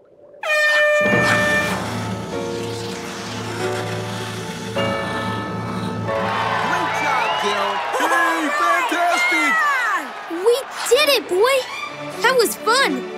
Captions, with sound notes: [horn blowing] Great job Gil! [cheering] We did it boy! That was fun.